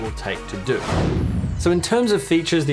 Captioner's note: air whooshes